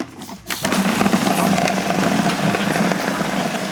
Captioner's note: grinding